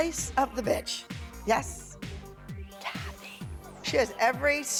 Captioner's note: whispering